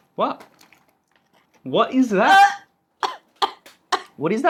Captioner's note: almost vomits again